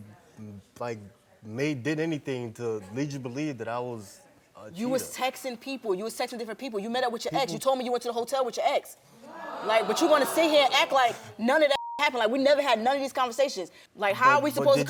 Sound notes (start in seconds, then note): 9.2 audience reacting